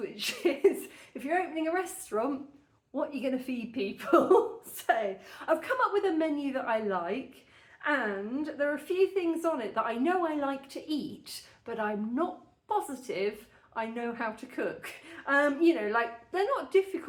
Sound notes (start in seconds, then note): 4.3 laughing